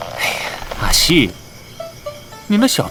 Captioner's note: sigh